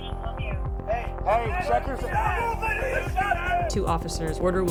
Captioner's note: officers shouting